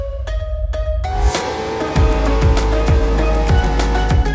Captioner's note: upbeat music; engine roars